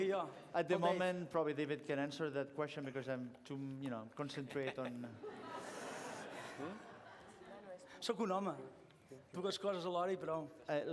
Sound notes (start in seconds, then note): 4.2 laughter; 8.6 non-english speech